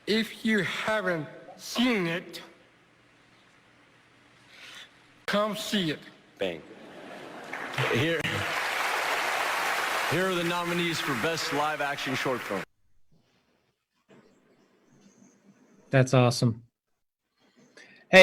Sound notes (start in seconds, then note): 7.2 applause